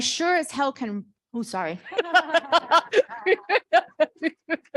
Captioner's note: all laughing